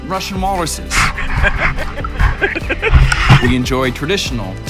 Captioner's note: man laughing